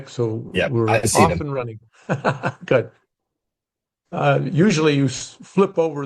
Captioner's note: laughing